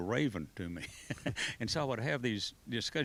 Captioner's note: laughs